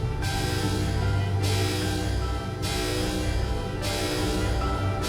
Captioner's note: alarm sounding